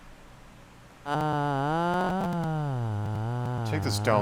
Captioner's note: weird voicebox noises yet again